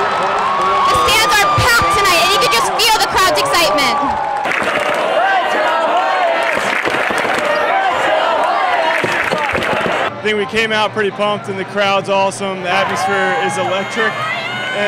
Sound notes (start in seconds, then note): 6.0 crowd cheering